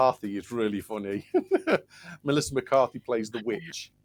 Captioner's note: laughs